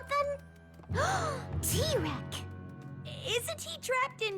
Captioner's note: gasp